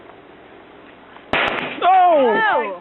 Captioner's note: loud explosion